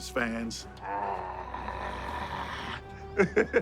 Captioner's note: grunting; laughing